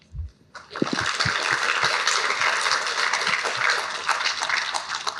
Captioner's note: applause